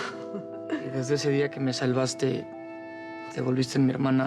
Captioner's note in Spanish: risas